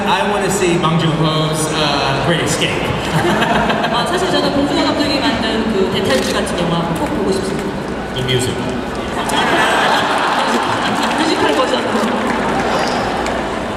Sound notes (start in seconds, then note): 4.1 speaking Korean; 9.0 audience laughing